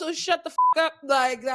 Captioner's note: beep